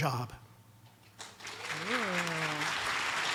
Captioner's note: audience applauds